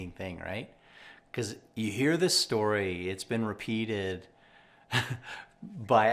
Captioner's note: laughs